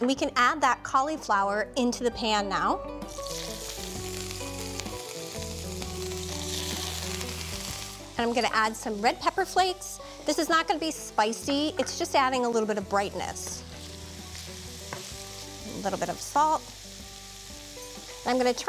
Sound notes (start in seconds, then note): 3.4 sizzling; 13.3 sizzling